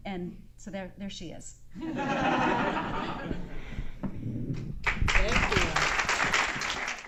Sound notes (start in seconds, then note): 4.8 applause